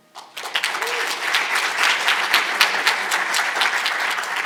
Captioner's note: audience applauding